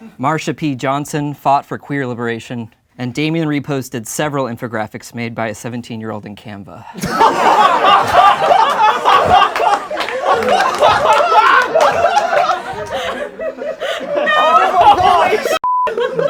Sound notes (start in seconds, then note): 7.2 laughing